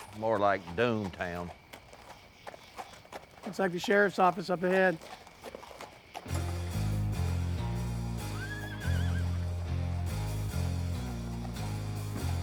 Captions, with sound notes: More like doom town. [horses walking] Looks like the sheriff's office up ahead. [dramatic music]